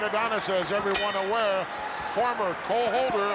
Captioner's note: bell rings